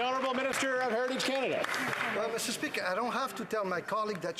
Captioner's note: some Applause